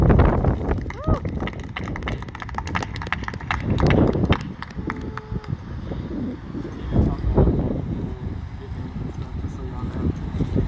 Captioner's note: applause